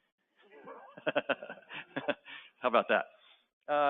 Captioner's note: laughter